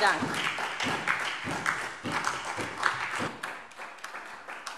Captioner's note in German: Beifall SPD